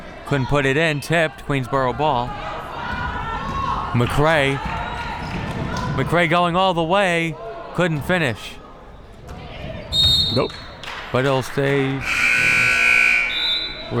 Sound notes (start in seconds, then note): 9.9 whistle; 12.0 buzzer